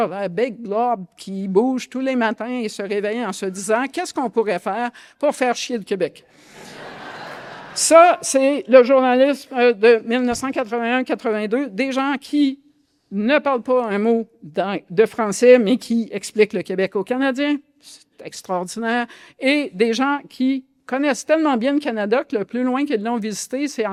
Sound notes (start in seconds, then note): 6.4 laughter